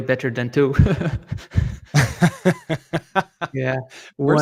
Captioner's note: laughter